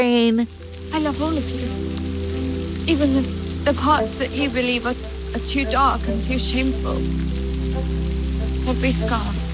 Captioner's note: soundbite of tv show, "bridgerton"